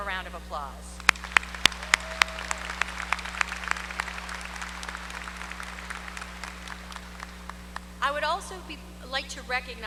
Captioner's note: applause